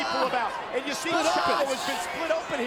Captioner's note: Chavo screaming